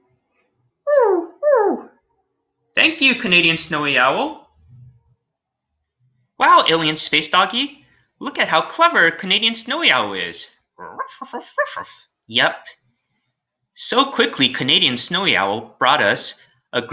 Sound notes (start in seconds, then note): 0.8 canadian Snowy Owl hoots; 10.9 Alien Space Doggy barking